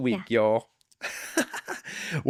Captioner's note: laughs